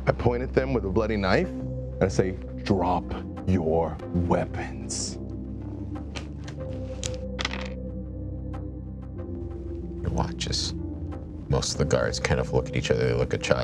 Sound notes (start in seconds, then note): 7.0 dice clatter